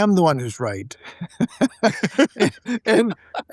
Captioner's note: laughing